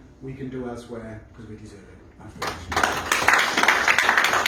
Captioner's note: applause